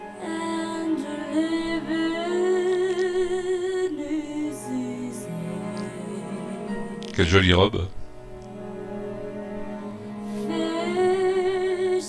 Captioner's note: applause